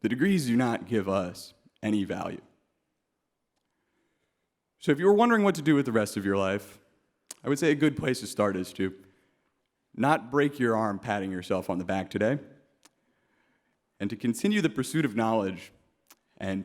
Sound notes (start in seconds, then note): none